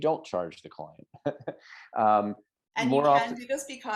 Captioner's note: chuckling